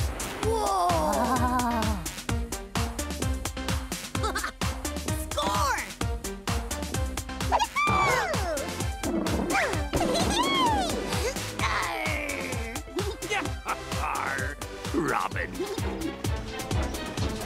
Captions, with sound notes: - Whoa! - Wow! (laughing) - Score! - Ya-hoo! (gasps) (giggling) - Arr! (laughing) - Robin. (tense music)